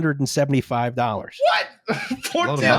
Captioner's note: shrieks